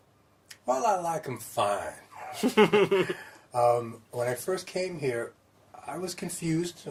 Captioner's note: laughter